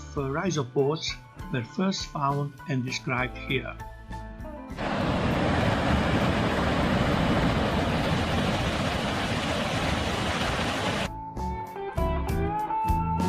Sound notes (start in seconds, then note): 4.8 murmur of water